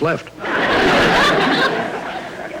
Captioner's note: audience Laughing